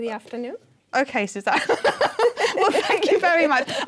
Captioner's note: laughing